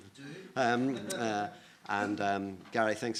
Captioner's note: laughs